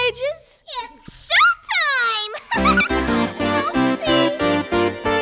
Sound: chuckles

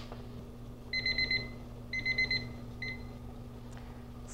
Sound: timer beeping

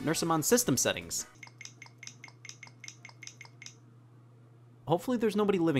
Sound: button clicks

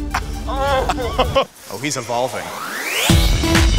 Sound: laugh

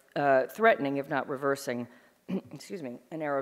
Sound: clearing throat

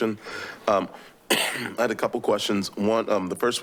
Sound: coughs

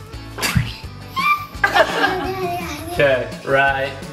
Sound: squeals; laughs

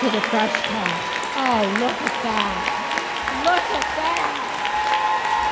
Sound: applause

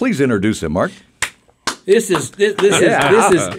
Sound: hands clapping

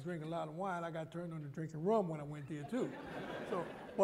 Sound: laughter

